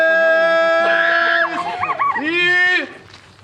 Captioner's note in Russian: смех